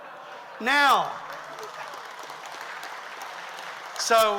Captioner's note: audience laughs; audience applauds